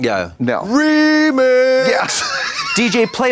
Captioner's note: Katya wheezes